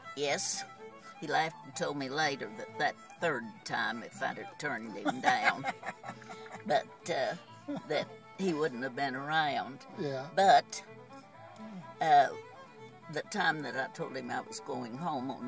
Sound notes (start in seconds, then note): 5.0 laughs